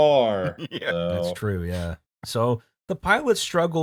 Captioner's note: laughter